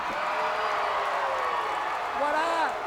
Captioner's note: crowd cheering